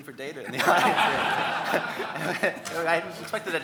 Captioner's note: audience laughing; laughs